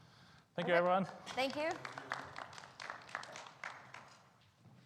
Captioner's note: round of applause